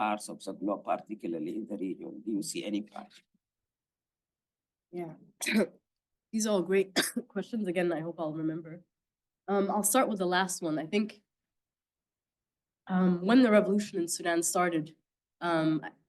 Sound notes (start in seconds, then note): 6.9 coughing